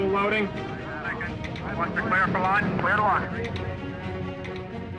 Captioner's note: male voice over radio